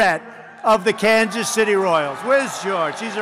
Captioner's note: applause